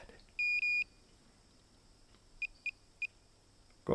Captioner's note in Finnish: laite piippaa